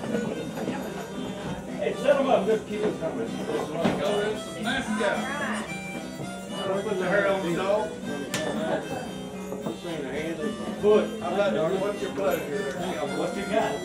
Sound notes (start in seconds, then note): 0.1 harmonica music; 0.1 people chattering; 6.8 harmonica music; 6.8 people chattering